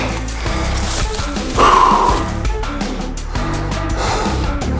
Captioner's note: whew